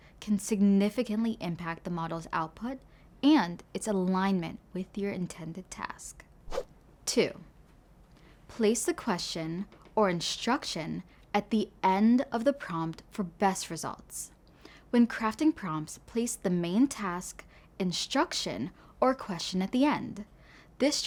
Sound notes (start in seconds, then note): 6.5 transition whooshing